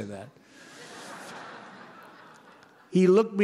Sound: laughter

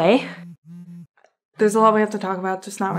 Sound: phone vibrating

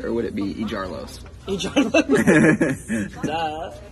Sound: laughter

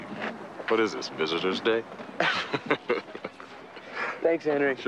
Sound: both chuckle

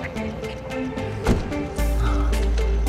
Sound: rhythmic discordant music; door close; rhythmic discordant music

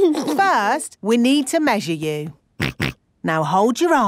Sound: snorts

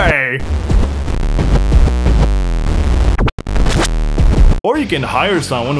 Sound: cryptic alien moaning noises

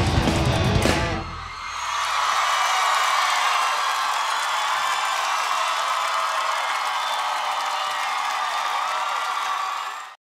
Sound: audience cheers

